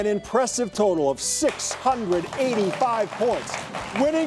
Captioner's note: audience clapping